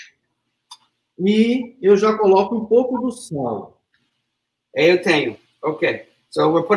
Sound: speaks portuguese

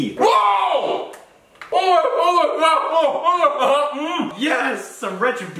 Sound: inarticulate yelling

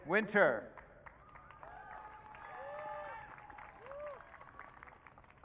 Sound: audience cheering

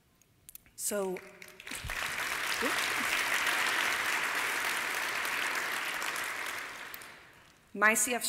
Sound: applause

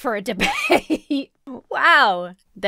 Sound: laughs

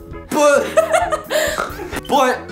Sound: laughing

